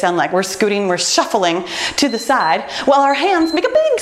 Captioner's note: timer beeps